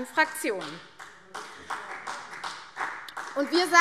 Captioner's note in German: Beifall CDU